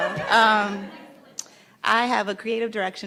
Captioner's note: laughs